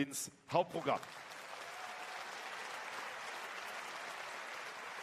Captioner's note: applause